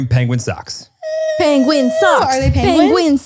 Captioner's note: squealing